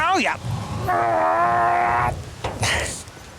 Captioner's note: richard grunting